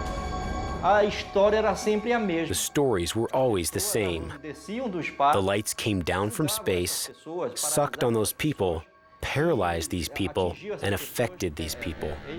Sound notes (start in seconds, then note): 0.8 speaking Portuguese